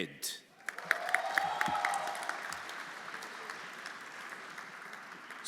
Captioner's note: everyone applauding